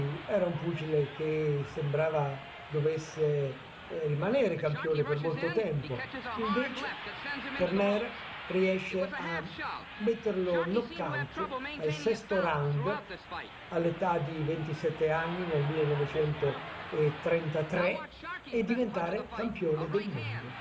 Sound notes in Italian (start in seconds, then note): 14.4 Applauso